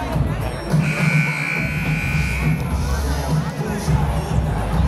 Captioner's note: buzzer blaring